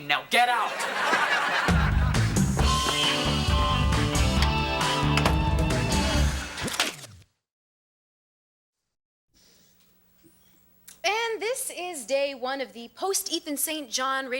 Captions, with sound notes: Now get out. (audience laughing) (upbeat music) - And this is day one of the post Ethan St. John